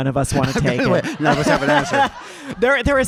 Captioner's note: audience laughing